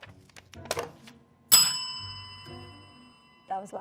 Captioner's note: bell ringing